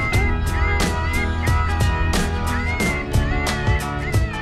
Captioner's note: high pitched squealing